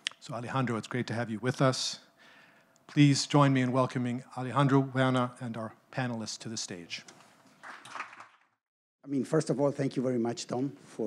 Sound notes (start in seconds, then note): 7.6 audience clapping